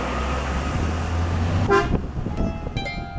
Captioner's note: bus toots